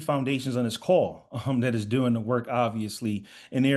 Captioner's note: chuckles